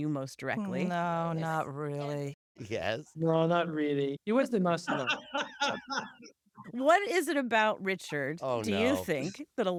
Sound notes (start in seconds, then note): 4.9 laughter